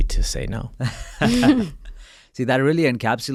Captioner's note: laughs